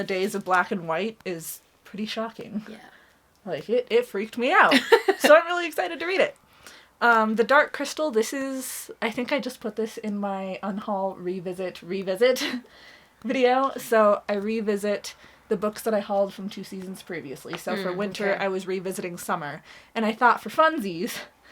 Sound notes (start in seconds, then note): 4.7 laughing